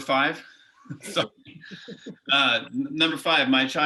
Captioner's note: group laughing